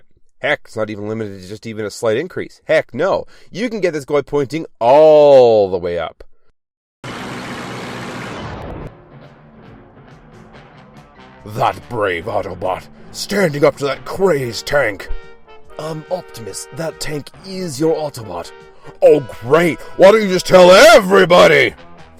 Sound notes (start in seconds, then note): 7.1 tank rolling